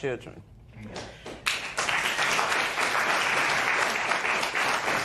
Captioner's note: applause